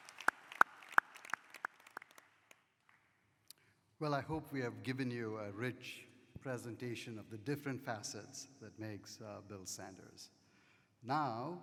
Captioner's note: applause